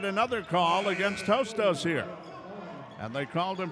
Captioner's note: buzzer buzzes